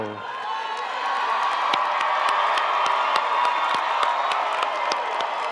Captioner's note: audience cheering and applauding